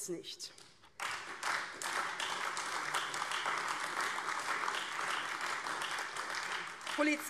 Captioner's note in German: Beifall AfD